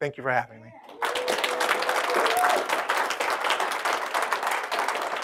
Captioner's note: applauding